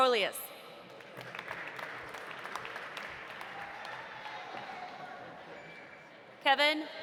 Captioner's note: audience applauding; audience cheering